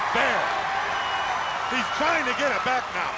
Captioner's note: crowd cheering